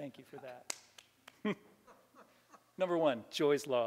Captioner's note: laughter